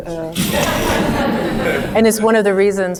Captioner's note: audience laughing